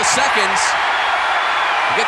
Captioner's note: audience cheering